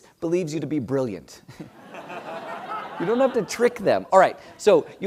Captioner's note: laugh